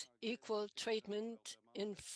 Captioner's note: speaking French